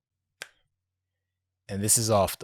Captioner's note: snaps